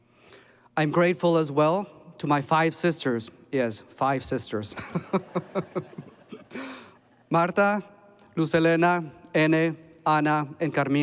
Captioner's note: laughs